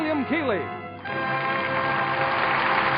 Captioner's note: audience applauding